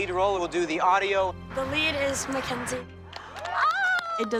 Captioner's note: all cheering